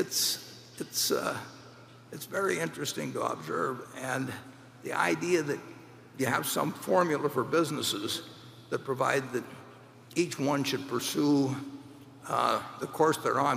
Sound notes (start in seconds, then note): none